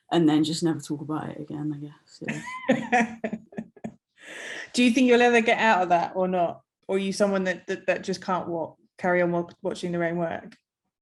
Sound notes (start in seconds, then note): 2.2 laughing